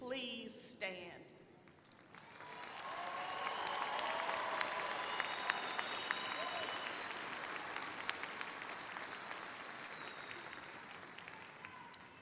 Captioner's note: applause